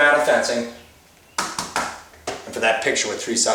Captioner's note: taps